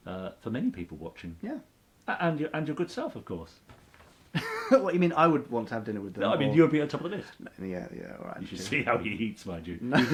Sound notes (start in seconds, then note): 4.3 chuckles; 9.8 laughs